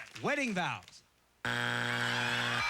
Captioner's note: buzzer